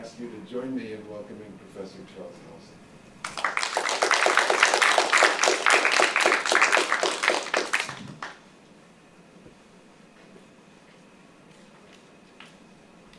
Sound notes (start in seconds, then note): 3.2 applause